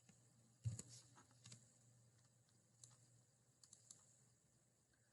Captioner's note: mouse clickings